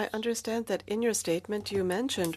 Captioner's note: speaking French